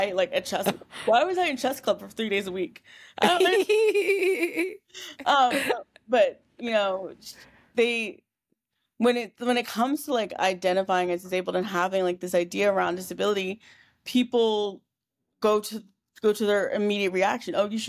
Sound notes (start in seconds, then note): 4.9 laughing